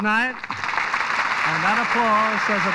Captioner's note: applause